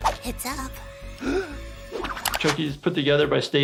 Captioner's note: gasps